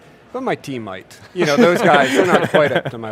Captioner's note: laughing